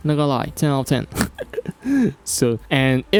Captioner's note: nervous Laugh